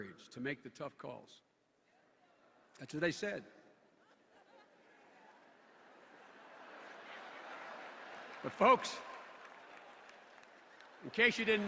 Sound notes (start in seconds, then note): 4.0 laughter; 7.8 rising laughter